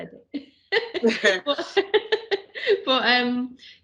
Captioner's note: laughs